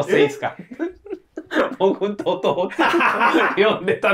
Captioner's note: laughing